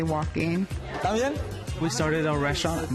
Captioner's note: speaking Spanish